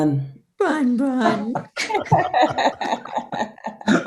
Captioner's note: laughing